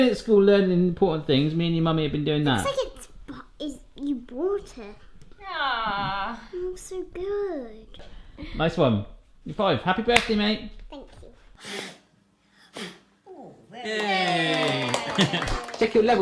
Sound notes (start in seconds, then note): 12.6 blowing; 13.9 applause and cheering